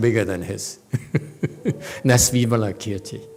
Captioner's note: laughs